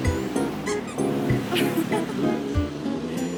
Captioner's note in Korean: 웃음